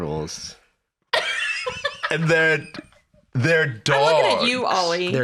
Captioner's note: laughs